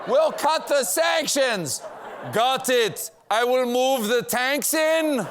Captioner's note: as world leader, yelling; as putin, yelling